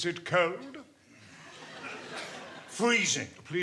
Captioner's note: audience laughing